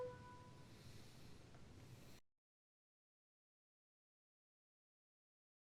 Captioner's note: music stops